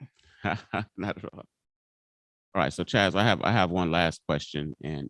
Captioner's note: chuckles